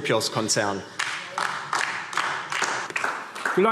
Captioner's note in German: Beifall DIE LINKE